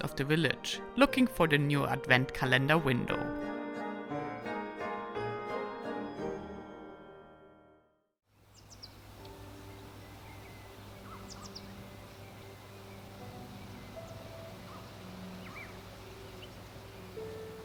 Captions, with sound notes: of the village, looking for the new Advent calendar window. (lively music) (birds tweeting) (tranquil music)